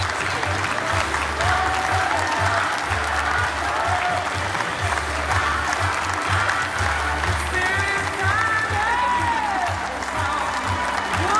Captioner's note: applause